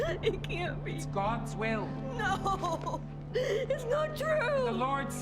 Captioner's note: crying